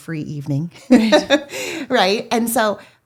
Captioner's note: laughs